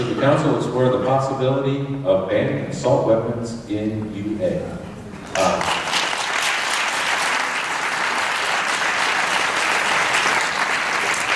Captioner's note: applause